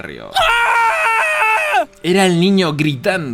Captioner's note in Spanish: gritos